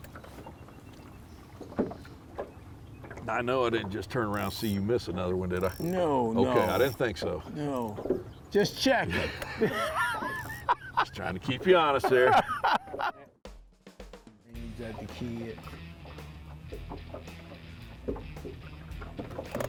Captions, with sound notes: - Now I know I didn't just turn around and see you miss another one did I? - No, no. - I don't think so. - Just check. (laughing) Just trying to keep you honest here. (upbeat music)